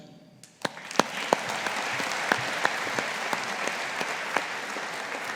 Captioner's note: audience applauding